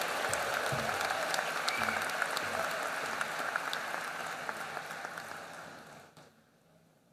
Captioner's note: applause